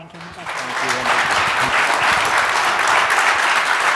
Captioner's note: applause